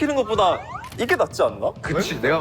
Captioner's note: confident